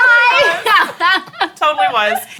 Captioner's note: laughter